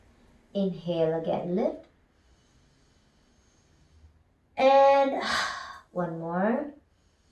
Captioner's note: exhales